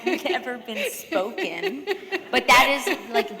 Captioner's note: laughter